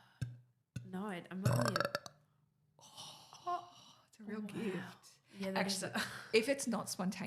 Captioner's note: burps